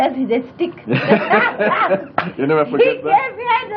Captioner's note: laughter